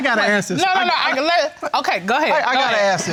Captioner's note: stammering